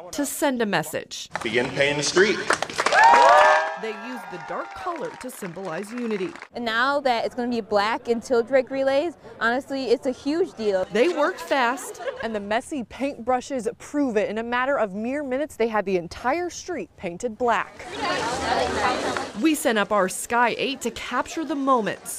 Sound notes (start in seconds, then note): 5.2 applause